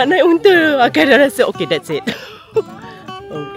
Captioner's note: laugh